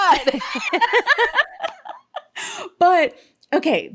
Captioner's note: laughing